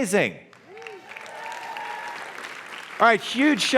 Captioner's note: cheers and applause